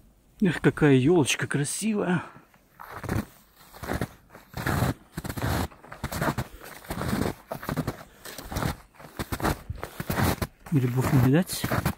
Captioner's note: snow crunching; snow crunching